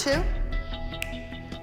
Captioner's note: snaps fingers